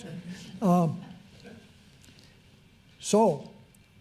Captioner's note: audience laughs